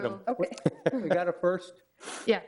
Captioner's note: laughing